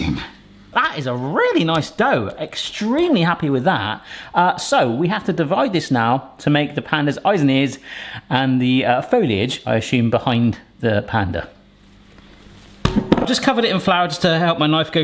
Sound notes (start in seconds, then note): 12.8 dough thumping